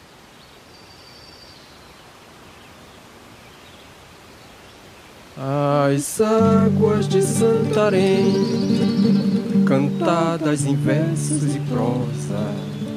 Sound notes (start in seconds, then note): 0.6 nature sounds; 6.4 regional music